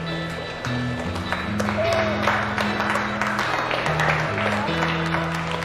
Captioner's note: scattered Applause; 零散的掌声